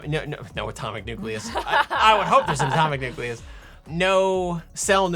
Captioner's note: laughing